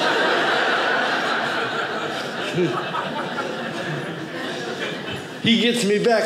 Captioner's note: audience laughing